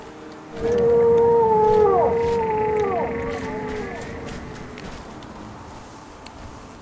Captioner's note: Beautiful Silt Strider howling back